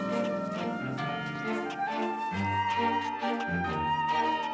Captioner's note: church bell ringing